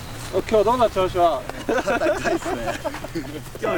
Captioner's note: japanese Language